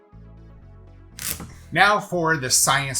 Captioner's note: upbeat jaunty music; knife scrapes